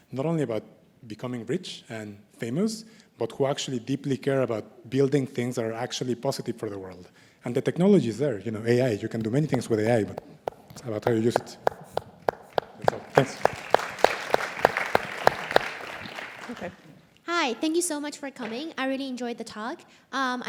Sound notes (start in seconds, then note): 12.2 applause